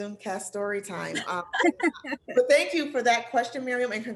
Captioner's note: laughter